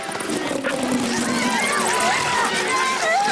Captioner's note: ponies screaming